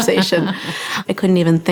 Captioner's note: laughs